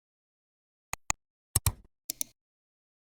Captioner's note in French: 3 différents clics